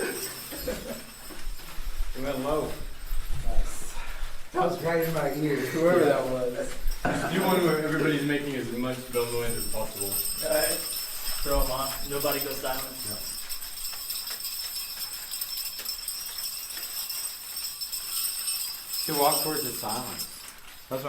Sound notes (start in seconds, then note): 12.6 bells ringing